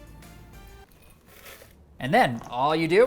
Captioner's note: oats colliding